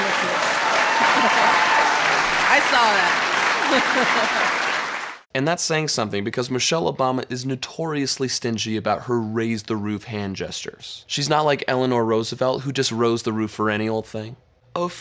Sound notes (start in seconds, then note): 0.0 audience applauds; 3.6 laughs